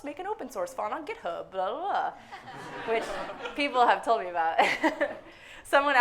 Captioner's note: laughs